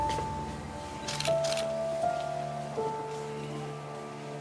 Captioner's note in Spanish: clic de las cámaras